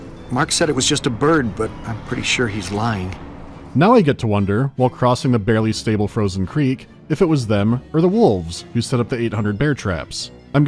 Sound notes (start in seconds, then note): none